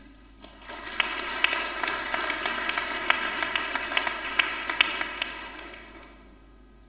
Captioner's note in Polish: oklaski